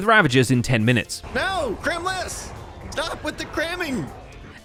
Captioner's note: Ravager pain noises